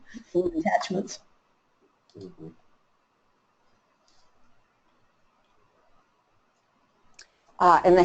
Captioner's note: silence